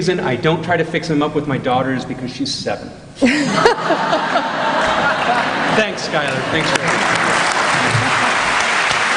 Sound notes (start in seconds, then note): 3.2 laughter; 7.3 applause